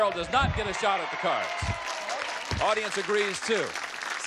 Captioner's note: applause